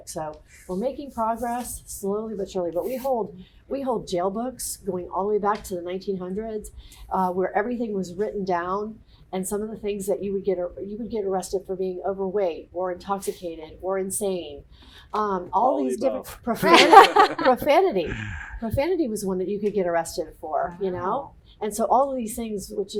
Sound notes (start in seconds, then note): 16.6 laughter